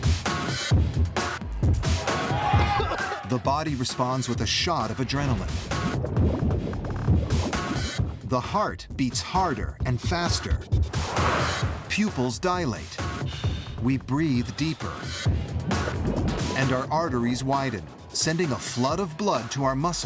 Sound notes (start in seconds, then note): 0.2 upbeat drum music; 5.0 bubbles effervescing